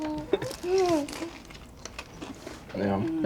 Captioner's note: food crunching